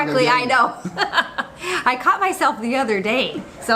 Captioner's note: laughing